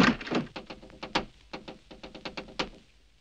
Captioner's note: tapping at door